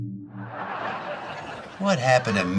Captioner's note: audience laughing